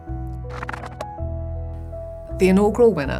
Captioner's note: light music; pages flipping